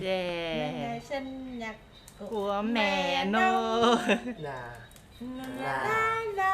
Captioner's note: laugh